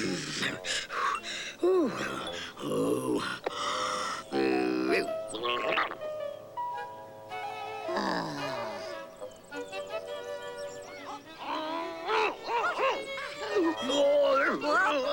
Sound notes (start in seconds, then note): 0.1 panting; 4.2 grunting; 12.6 struggling and grunting